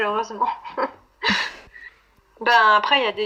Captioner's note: laughs